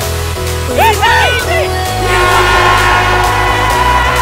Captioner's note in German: schreie